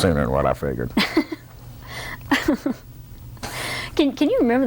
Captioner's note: light laughter